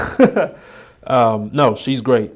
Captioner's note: laughing